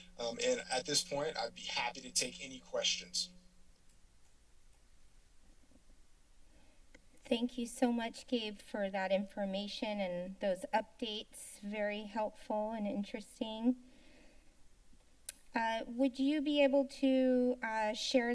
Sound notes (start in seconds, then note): 13.7 silence; 15.3 tongue clicks